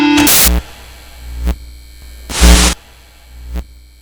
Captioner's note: buzzing stops, static